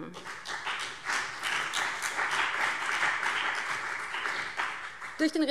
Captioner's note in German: Beifall BÜNDNIS 90/DIE GRÜNEN und vereinzelt CDU